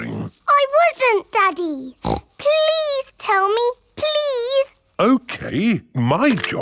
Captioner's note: snorts